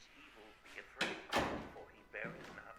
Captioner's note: television; door creaking